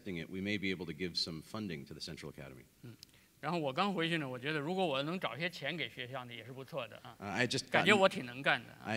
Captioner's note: speaking in Chinese